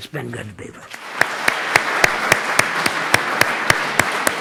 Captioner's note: audience laughs